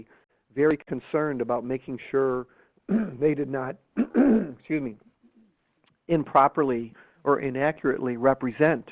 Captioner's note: clearing his throat